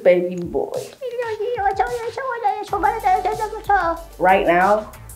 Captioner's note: speaking in gibberish